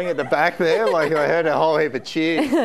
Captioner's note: audience laughing